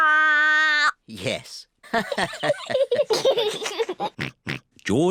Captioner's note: all laugh